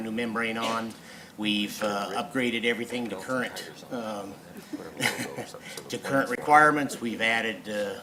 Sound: laughs

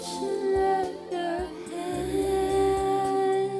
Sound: soft humming

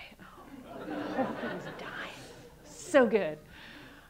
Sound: audience laughing

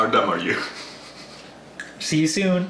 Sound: laughs

